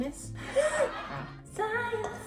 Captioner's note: laughs